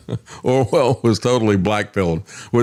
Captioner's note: laughs